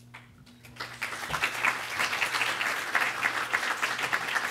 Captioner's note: applause